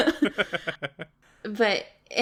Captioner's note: laughs